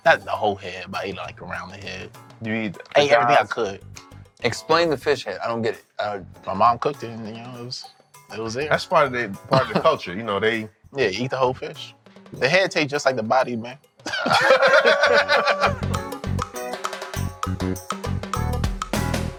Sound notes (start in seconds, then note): 14.0 laughing; 15.7 upbeat steel drum music